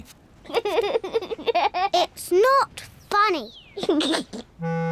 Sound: giggles

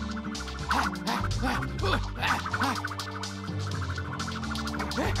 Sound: Digit breathes heavily

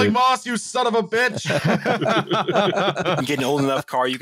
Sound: laughter

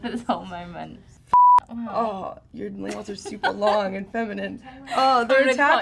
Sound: beep

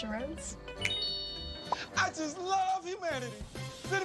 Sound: ting

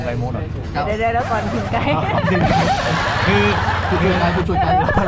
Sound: laugh

